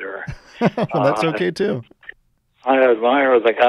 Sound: laughs

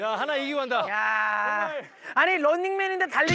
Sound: exclaiming

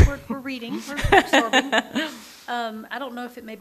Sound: laughs

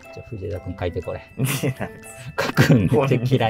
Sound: laughing

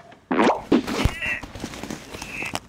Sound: grunts

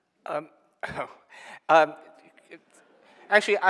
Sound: chuckling

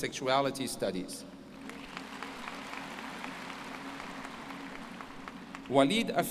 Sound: applause

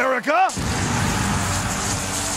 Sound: sparks flying

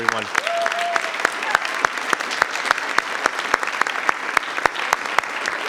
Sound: audience applauding

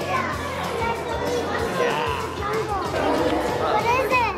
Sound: loud background chatter

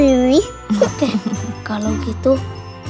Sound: laugh

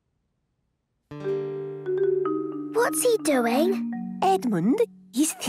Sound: whispering

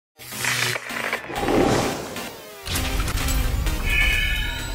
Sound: sound Effects

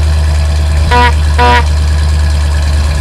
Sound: beep beep

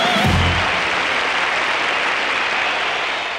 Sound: audience applauding

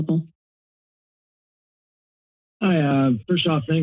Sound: silence

